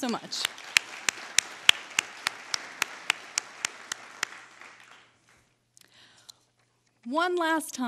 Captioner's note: applause